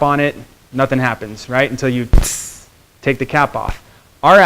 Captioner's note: hissing